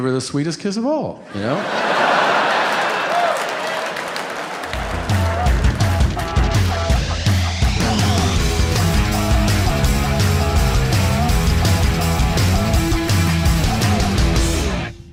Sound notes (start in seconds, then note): 1.3 audience laughing and cheering; 6.0 upbeat music